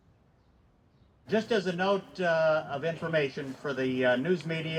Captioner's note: announcer's voice